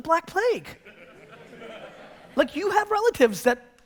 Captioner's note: audience laughter